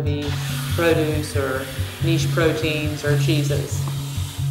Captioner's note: faucette running